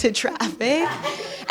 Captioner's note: chuckling